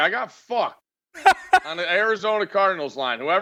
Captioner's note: laughing